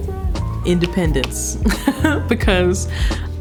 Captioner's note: laughing